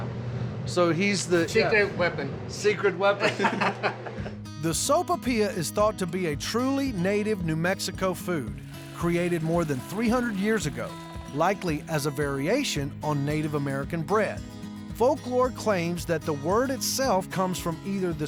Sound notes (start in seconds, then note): 3.2 laughter